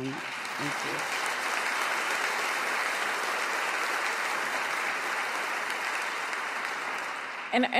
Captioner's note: audience applause